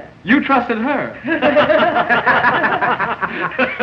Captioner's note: all laughing